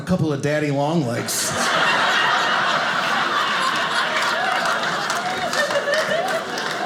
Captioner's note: audience laughing